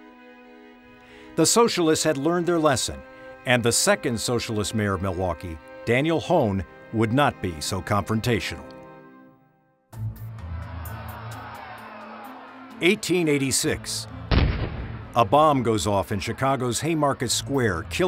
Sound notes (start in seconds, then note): 9.9 tense music; 10.2 crowd jeering; 14.3 bombs blasting